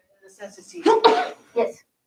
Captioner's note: sneezing